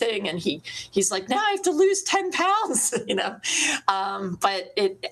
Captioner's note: laughs